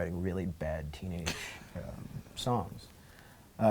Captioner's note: laughs